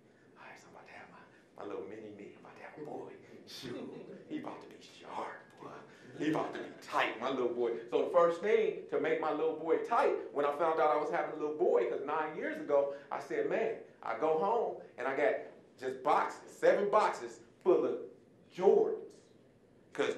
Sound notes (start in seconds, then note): 3.6 audience chuckling